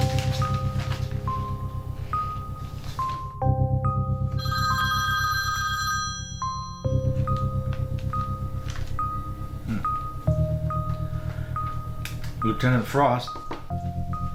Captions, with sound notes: (Phone Rings) Leutenant Frost